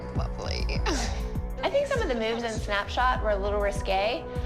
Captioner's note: laughs